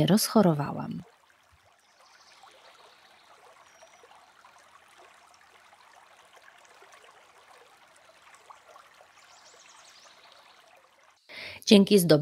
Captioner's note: creek water